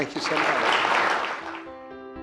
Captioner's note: clapping